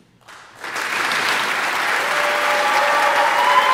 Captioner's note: audience applauding; audience cheering